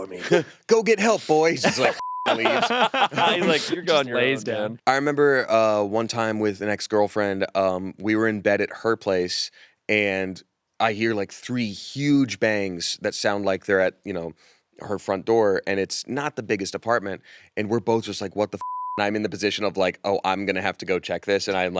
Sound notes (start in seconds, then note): 1.1 all laughing